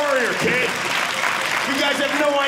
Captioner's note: audience laughing